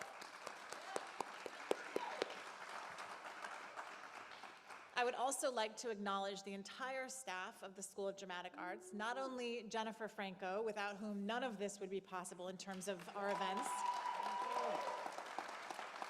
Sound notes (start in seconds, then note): 4.9 applause